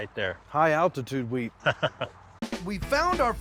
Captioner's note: laughing